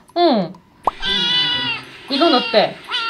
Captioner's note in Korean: 밥 달라고 하는 고양이 소리